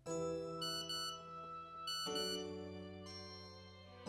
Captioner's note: phone beeping